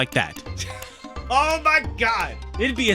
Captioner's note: laughing